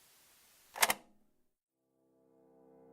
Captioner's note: click